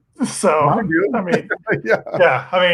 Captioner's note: laughs